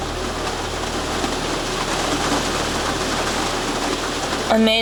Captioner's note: heavy rain